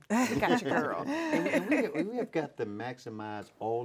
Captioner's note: laughing